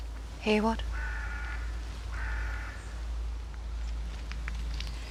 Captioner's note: crow cawing